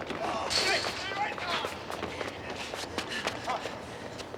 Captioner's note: shouts